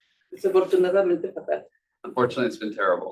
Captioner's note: speaking Spanish